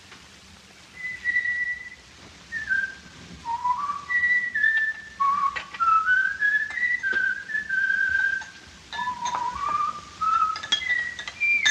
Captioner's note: Lee whistles